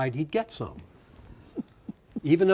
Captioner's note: chuckles